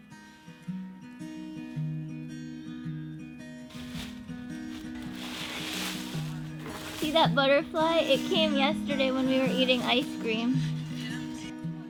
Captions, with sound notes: (light cheerful music) (leaves rustling) - See that butterfly? It came yesterday when we were eating ice cream.